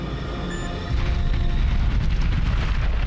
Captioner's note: explosion